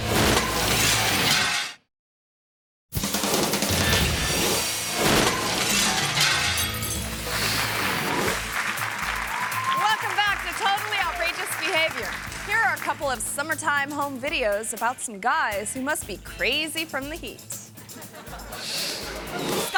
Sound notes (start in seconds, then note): 0.1 glass shattering; 3.1 uptempo music; 4.6 glass shattering; 8.2 audience clapping and cheering; 17.7 air whooshes; 17.8 audience laughing